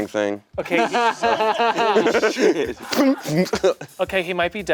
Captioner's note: laughing